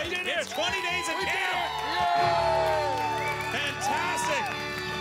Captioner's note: cheering and Applause